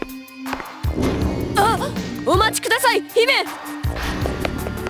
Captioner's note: gasp